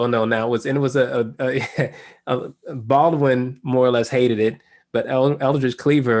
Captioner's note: laugh